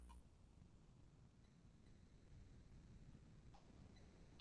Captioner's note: mouse clicking